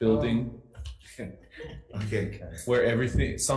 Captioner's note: board members chuckling